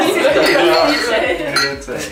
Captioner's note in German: Lachen